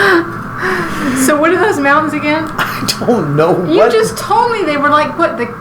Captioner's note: laughing